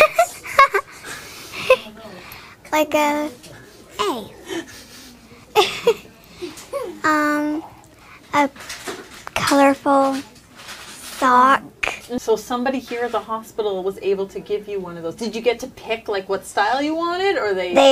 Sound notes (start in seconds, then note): 0.0 giggle; 5.5 giggles